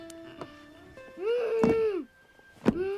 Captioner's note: moans